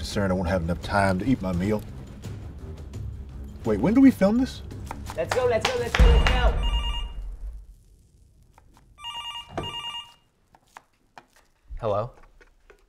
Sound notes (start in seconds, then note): 6.0 phone ringing; 7.2 intense silence; 9.0 phone ringing